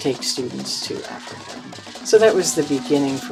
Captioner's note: cheering, drum beats, and maracas